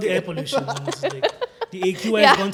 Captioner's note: laughing